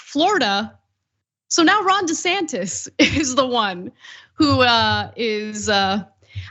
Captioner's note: laugh